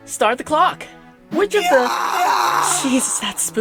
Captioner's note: scream sound effect